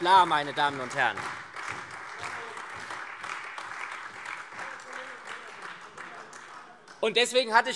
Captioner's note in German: Beifall SPD, AfD und Freie Demokraten